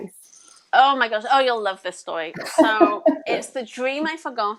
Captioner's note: laughs